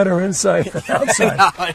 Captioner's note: laughing